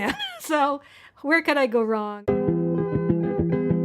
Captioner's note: chuckles